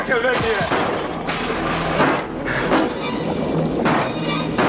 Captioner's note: popping and banging